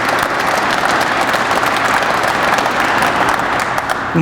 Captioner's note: crowd applauds